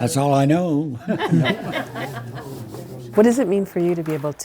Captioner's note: all laughing